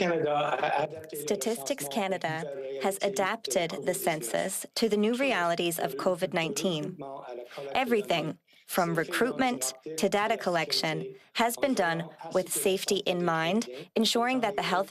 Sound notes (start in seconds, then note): 9.4 speaking French